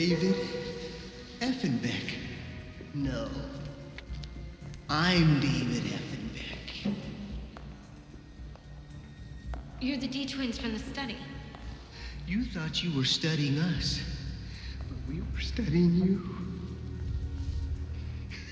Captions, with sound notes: - David Effenbeck. - No, I'm David Effenbeck. (footsteps tapping) - You're the D twins from the study. - You thought you were studying us. - But we were studying you. (laughs)